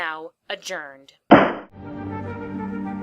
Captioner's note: gavel